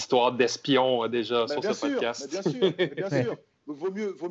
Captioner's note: laughs